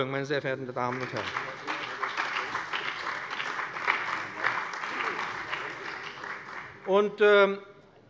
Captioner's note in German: Beifall bei dem BÜNDNIS 90/DIE GRÜNEN und der CDU